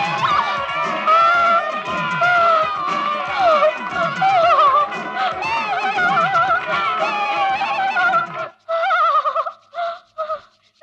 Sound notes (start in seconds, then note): 8.7 shivering